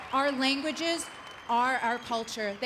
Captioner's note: applause